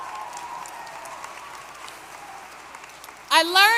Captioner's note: applause